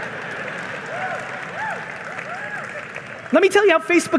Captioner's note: audience laughing and applauding